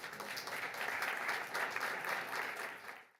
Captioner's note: audience applauds